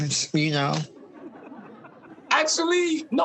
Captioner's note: audience laughing